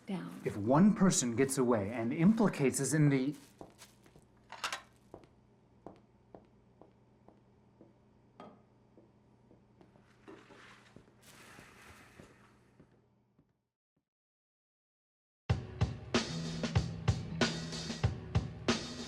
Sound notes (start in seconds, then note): 11.2 sighing; 15.6 upbeat rock music